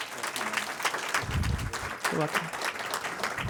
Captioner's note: applause